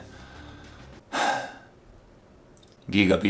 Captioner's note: sigh